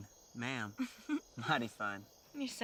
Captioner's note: Cathryn giggles